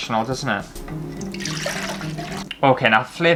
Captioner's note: liquid Pouring